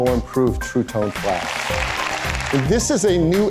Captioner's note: crowd applauses